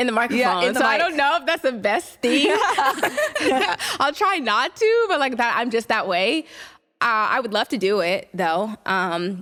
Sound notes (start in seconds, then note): 2.2 laughter